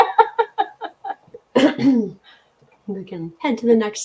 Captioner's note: laughter